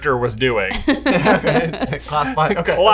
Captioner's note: all laugh